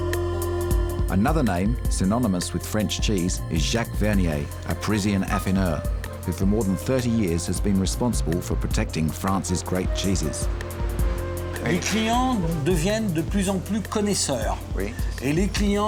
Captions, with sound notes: 'Another name synonymous with French cheese is Jacques Vernier, a Parisian affineur who for more than 30 years has been responsible for protecting France's great cheeses.' (SPEAKS FRENCH)